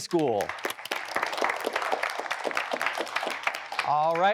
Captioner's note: applause